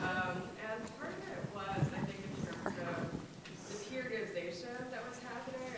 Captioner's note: speaking off microphone